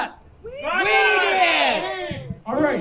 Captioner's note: crowd